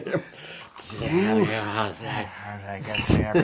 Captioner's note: laugh